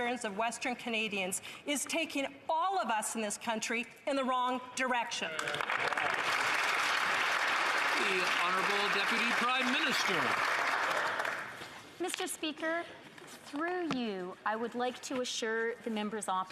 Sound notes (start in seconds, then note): 8.5 some Applause